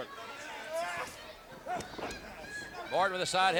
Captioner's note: wrestlers grunting